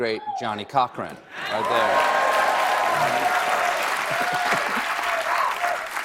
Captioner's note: applause